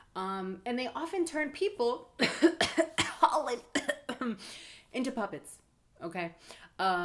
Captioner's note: cough